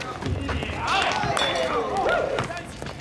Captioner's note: men clap and whoop